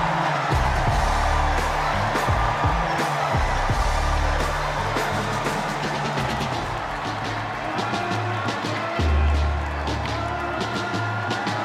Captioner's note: cheers and applause